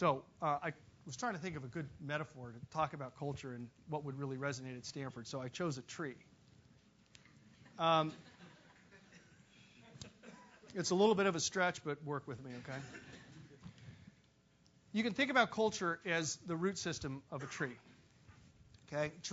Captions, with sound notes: So I was trying to think of a good metaphor to talk about culture and what would really resonate at Stanford, so I chose a tree. >> [LAUGH] >> It's a little bit of a stretch, but work with me, okay? You can think about culture as the root system of a tree, okay?